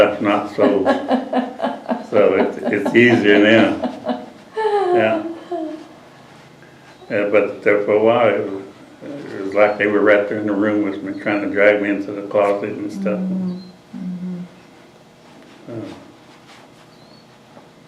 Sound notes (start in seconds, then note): 4.2 laughter